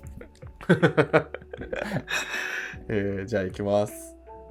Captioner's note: laughing